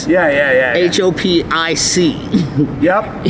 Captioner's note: laughs